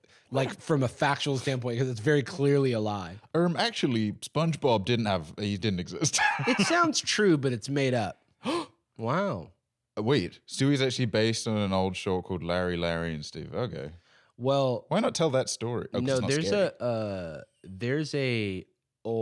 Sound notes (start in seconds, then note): 8.4 gasps